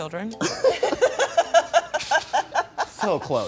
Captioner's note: everyone laughs